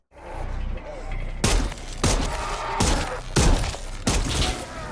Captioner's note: gunshots